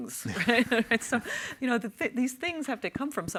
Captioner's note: panelists laugh